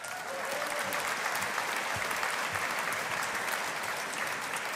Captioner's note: audience applauding